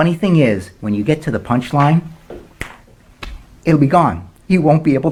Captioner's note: snaps